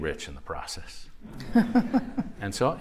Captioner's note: laughter